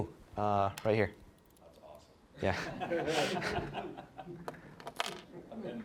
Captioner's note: all laughing